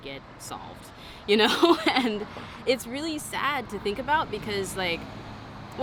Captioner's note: laughs